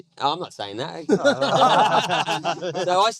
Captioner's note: laughing